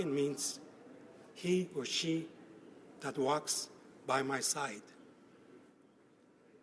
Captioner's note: speaking Alternate Language